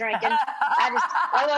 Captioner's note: laughs